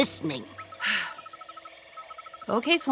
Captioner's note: sighing